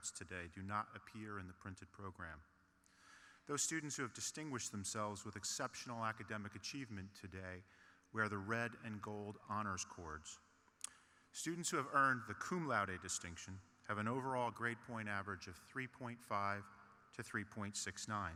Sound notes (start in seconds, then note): none